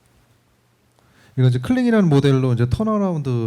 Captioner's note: speaking korean